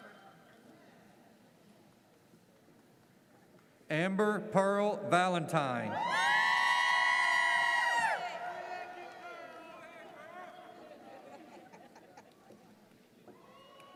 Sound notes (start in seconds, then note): 5.9 audience cheers